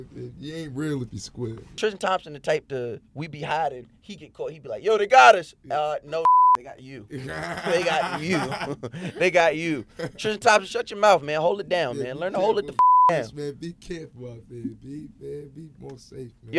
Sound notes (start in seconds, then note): 6.2 beep; 7.1 laughing; 12.7 beep